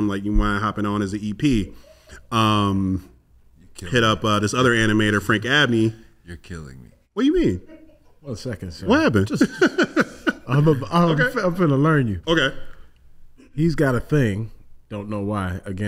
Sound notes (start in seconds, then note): 9.2 laughs